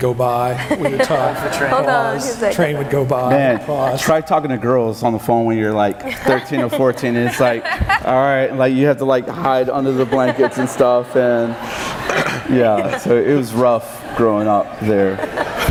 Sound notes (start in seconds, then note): 0.5 laughing; 11.4 audience laughing; 15.5 audience and panel laughing